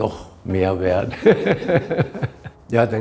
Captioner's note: both laugh